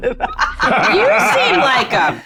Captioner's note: cast laughs